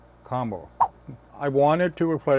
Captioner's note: swipe sound